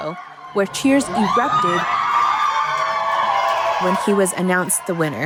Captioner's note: crowd cheering